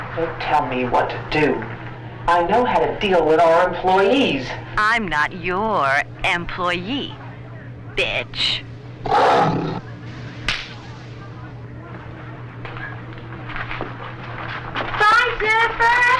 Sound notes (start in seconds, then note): 9.0 lion roars